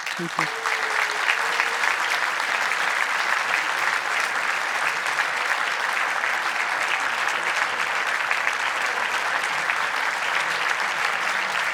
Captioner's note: audience applause